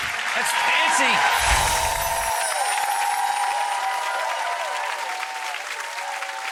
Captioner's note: audience cheering